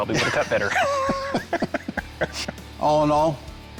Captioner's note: laughing